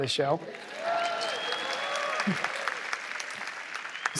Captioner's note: cheering